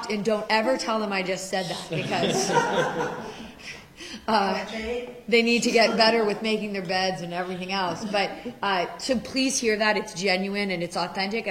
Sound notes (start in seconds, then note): 1.8 laughter; 4.5 woman's Voice